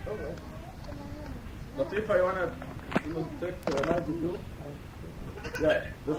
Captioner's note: chewing; speaking in foreign language